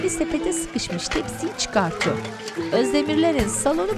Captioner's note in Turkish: Fonda alkış sesleri